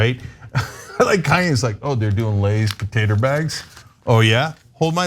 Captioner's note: laugh